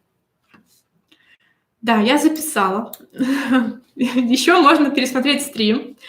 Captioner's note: смех